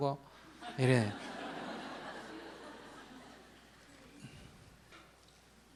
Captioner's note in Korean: 청중 웃음